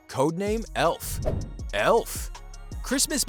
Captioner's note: air whooshing